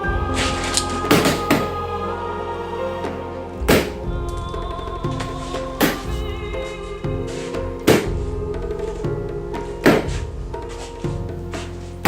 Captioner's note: shuffling Upstairs; shuffling Continues